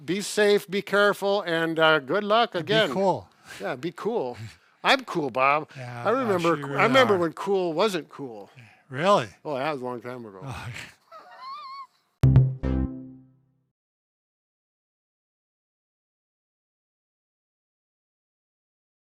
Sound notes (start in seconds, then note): 10.6 laughs; 12.2 upbeat music